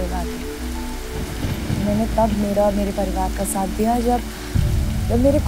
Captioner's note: Clouds roaring